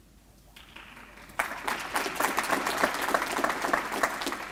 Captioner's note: applause